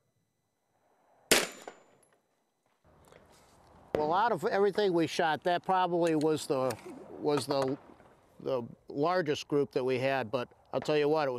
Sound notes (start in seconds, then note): 1.3 bang